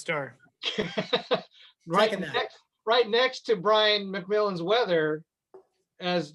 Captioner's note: laughing